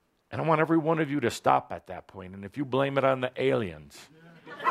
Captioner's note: laughter